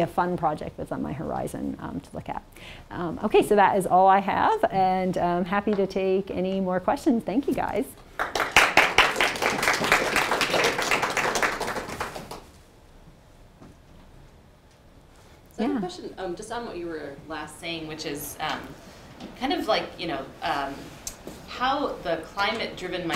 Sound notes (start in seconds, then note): 8.1 audience applauds